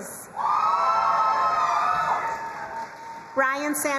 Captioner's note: crowd cheering and applauding